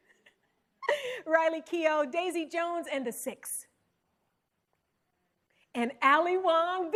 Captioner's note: chuckles